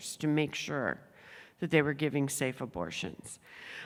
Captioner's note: none